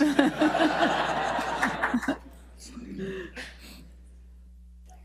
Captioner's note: audience and panel laughs